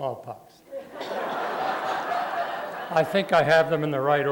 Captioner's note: laughter